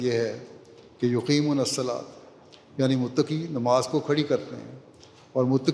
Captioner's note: Arabic